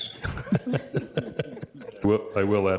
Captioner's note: people chuckling